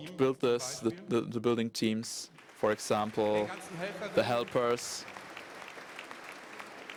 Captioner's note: applause